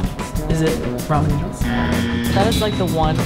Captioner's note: buzzer beeps